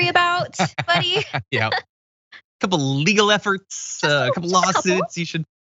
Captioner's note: laugh